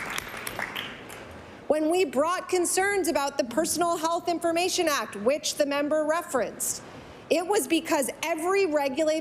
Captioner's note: applause